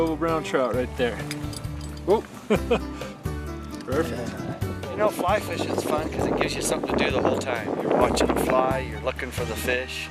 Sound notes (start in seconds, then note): 2.4 laughs